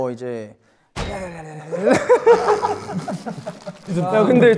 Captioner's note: stammering